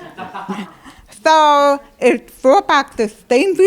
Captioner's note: laughter